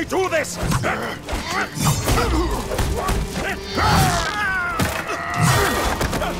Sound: grunting

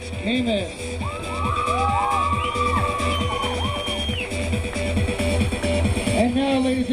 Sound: crowd cheering; crowd applauding

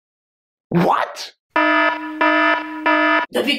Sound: plagiarism alarm

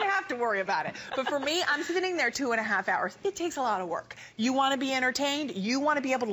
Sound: laughter

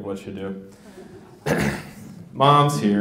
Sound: audience laughs

